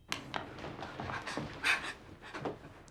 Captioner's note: gasps